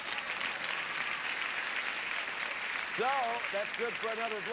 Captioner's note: audience applauding